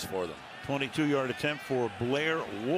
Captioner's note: cheering